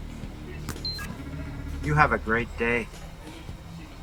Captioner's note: card beeps